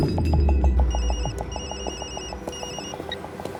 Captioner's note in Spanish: Suena el celular